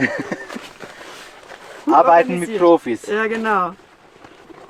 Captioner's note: laughter